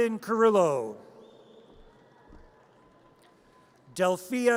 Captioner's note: audience cheers